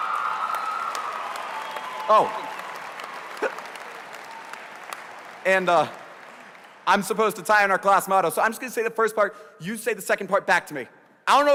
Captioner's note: applause